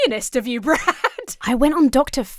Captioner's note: laughs